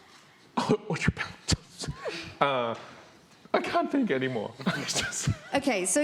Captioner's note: laughs